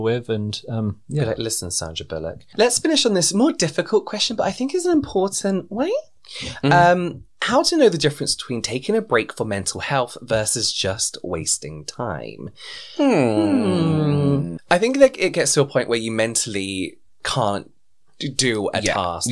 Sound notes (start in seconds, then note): 12.9 lots of Erming